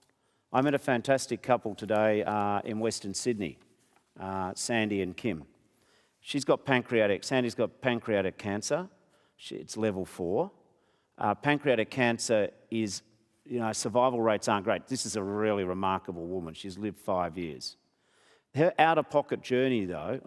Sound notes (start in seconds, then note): none